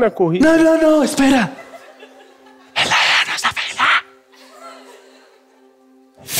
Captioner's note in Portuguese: sussurra